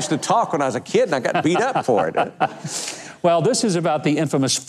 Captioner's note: laughing